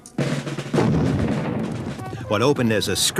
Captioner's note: rhythmic drumming; booming